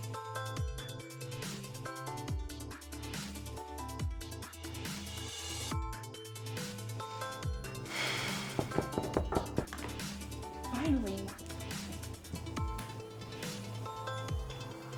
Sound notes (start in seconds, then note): 7.8 exasperated Sigh; 7.9 rapid Knocks at the Door